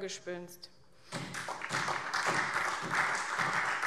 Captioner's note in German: Beifall SPD und DIE LINKE